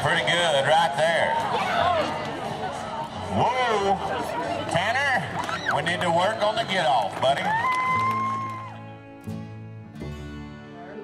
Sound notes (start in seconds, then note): 1.8 crowd cheering; 7.5 woman whooping; 8.1 guitar strumming